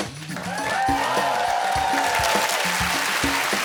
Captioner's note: blows whistle